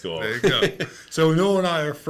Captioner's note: laughing